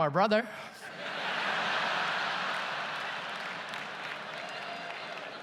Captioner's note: audience laughs and applauds